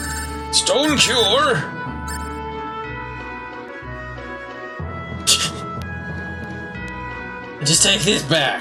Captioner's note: laughs